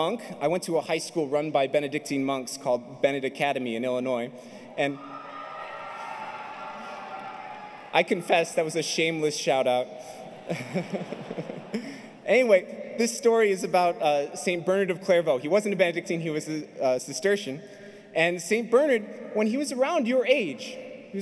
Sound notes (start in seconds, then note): 4.9 shouting crowd; 10.3 chuckles